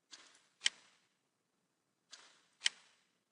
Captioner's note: clicking